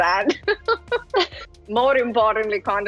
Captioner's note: laughs